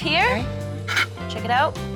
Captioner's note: blows